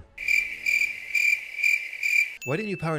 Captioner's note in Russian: стрекот сверчков